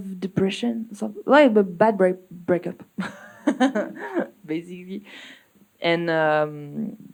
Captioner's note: laughs